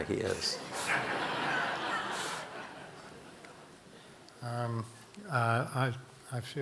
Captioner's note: audience laughing